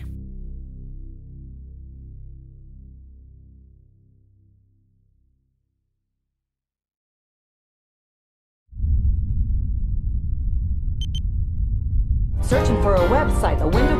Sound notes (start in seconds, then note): 9.7 unnerving music; 11.0 beeping